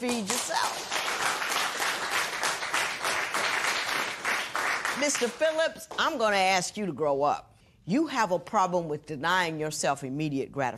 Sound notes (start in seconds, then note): 1.6 applause